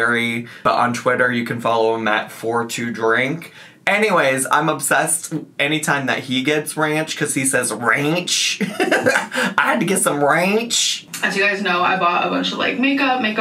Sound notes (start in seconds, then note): 8.6 laughs